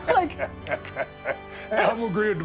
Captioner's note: Steve laughing